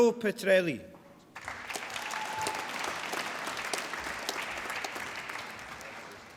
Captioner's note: applause